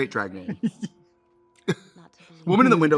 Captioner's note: Katya chuckles